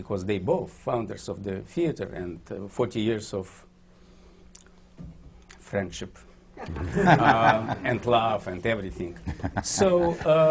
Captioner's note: laughter